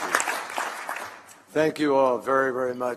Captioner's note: applause